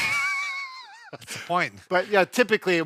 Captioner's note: both laughs